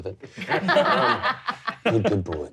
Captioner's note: all laughing